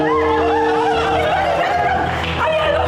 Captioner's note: screams